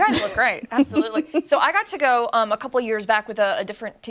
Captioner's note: laughter